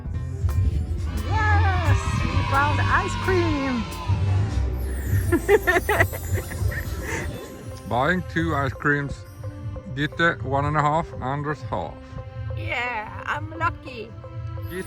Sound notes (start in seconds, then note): 5.2 laughter